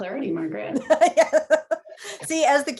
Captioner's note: laughs